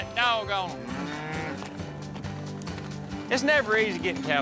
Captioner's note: mooing